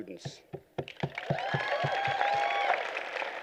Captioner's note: applause